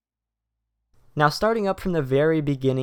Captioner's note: voiceover